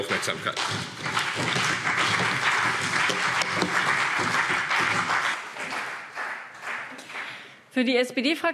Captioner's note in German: Beifall